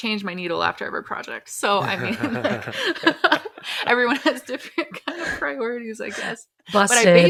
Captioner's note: laughs